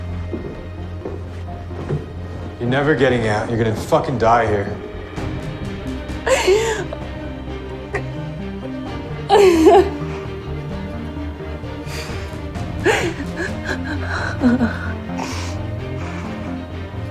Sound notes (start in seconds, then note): 6.1 Serena cries